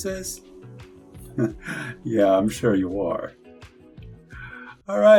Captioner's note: chuckles